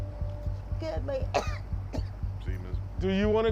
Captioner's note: woman coughing